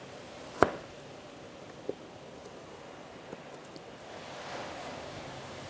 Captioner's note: waves lapping softly